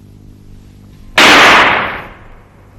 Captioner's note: second gunshot